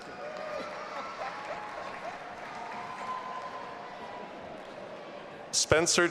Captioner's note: audience applauding and cheering